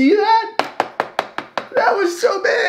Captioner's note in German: Tasse klopft auf den Tisch